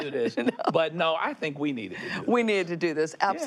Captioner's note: laughs